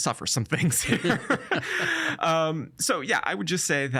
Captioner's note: both laughing